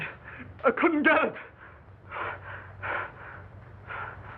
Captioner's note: panting